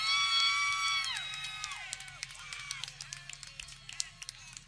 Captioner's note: people cheering